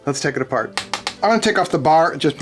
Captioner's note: tapping